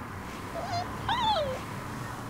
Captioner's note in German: Winseln